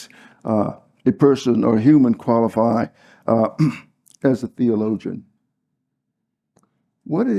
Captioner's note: cough